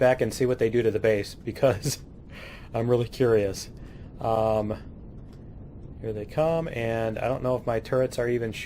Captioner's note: laughs